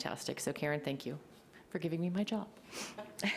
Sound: laughs

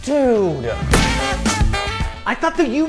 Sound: thud

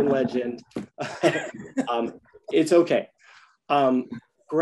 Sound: several chuckles

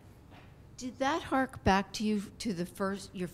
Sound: voiceover

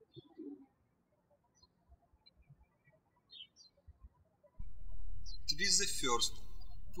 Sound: birds chirping

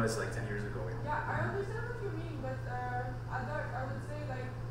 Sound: voiceover

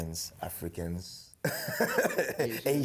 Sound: laughs

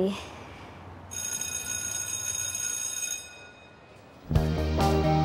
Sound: bell rings

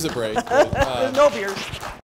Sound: laughs

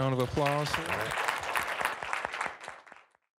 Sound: applause

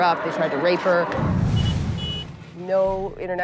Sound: horn honks

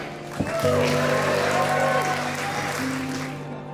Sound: audience cheering

